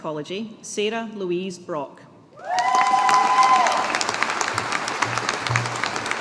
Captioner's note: audience applauding